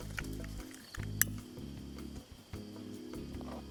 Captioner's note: click